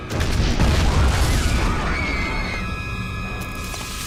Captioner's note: crowd screams